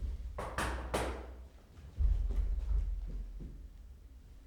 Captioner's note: knocks again